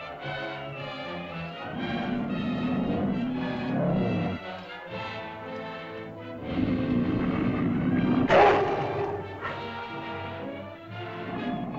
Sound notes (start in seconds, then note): 0.0 lizard growls; 0.0 suspenseful music; 8.3 lizard bellows; 9.9 suspenseful music